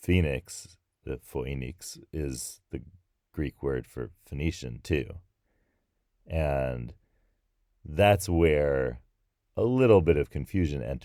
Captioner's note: pronouncing in Greek